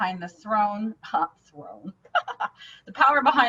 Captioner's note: laughing